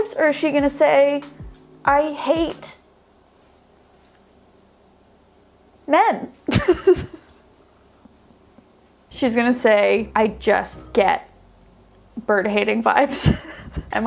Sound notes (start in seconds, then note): 6.9 laughs; 13.1 laughs